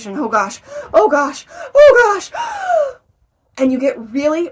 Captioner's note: gasps